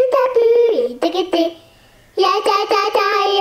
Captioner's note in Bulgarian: none